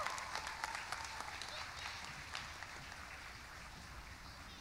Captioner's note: cheering; applause